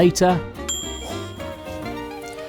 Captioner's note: ping